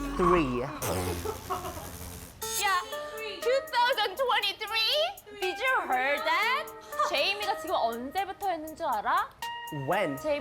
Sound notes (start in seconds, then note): 0.6 deliciously mocking laughter